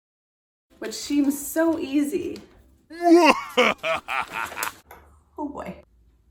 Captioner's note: evil laugh